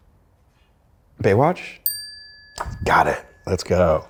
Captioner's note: bell dings